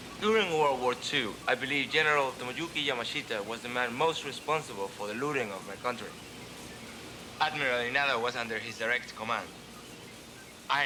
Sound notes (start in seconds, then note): none